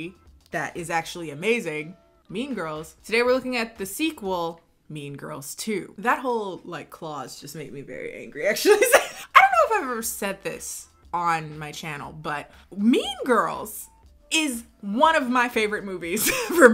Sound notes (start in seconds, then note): 8.6 laughing